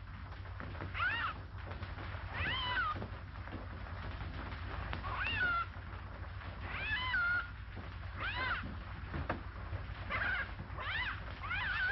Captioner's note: parrot squawks